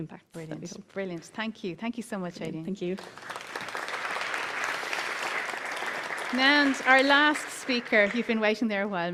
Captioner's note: applause